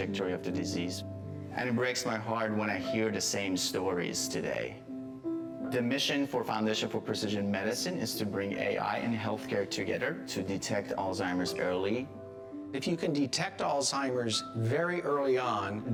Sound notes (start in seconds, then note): none